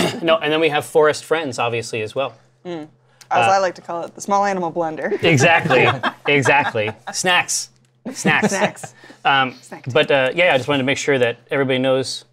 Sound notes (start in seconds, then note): 5.2 laughs